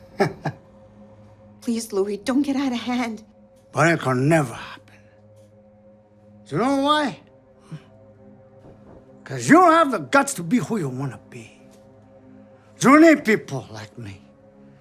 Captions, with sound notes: [he chuckles] Please, Loui, don't get out of hand. [trying to mimic Tony Montana] But it could never happen. You know why? 'Cause you don't have the guts to be who you wanna be. You need people like me.